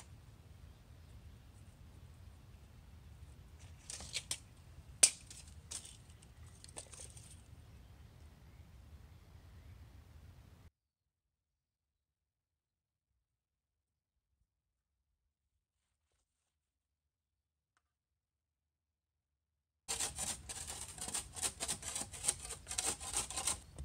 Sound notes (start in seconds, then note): 0.0 wind and birds chirping; 0.3 tap and then scrape; 7.8 light wind; 19.9 scraping